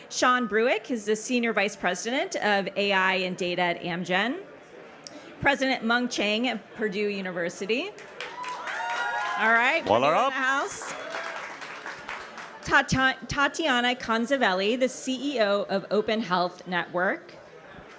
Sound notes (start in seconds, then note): 8.2 audience cheers